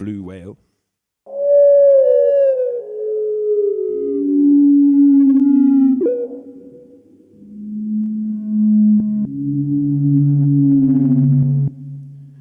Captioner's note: whale song